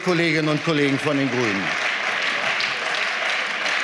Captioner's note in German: Beifall